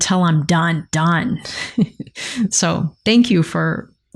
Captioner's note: laughs